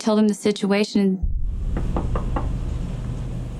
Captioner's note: knocking